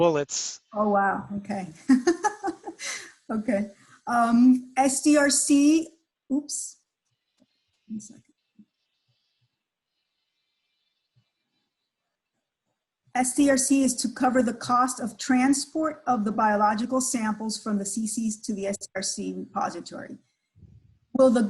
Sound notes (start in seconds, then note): 5.5 laughs; 9.8 pause